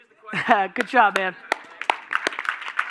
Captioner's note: clapping; audience applauding